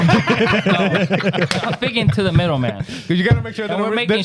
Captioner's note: laughing